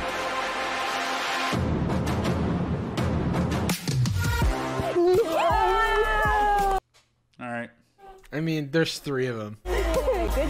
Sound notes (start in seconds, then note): 0.0 dramatic music; 4.8 contestants cheering